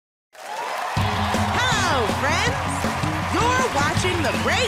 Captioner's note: cheers and applause